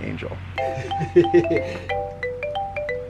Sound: laughs; cheery xylophone music

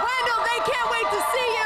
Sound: cheers and applause

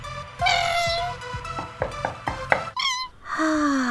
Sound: door Knocks

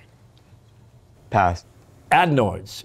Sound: whispering

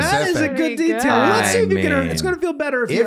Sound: speaking faintly

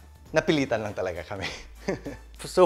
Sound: giggles

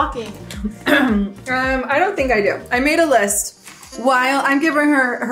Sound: clears throat

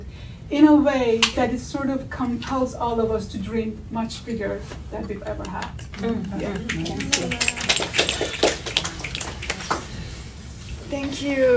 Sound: audience agreement

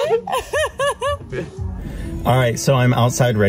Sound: laughs

